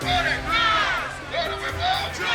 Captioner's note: crowd